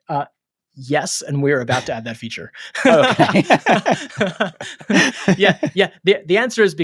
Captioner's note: both laughing